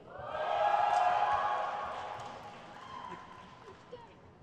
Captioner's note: crowd cheers